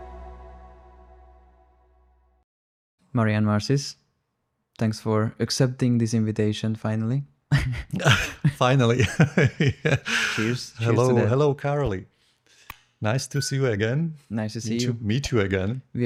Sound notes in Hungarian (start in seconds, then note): 8.9 nevetés